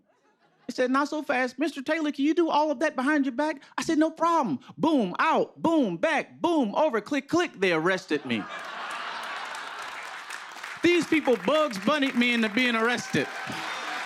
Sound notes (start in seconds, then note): 8.1 laughter